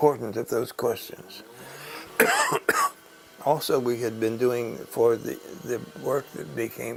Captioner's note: cough